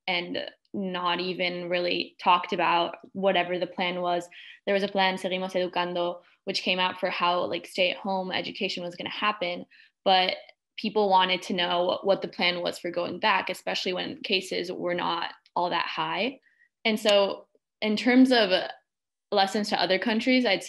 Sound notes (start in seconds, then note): 5.5 speaking in foreign language